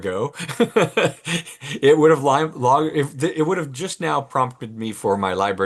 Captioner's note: laughs